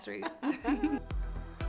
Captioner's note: both laughing; upbeat electronic music